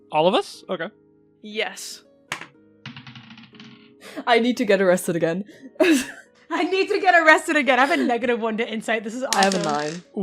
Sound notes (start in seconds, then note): 2.8 dice clacks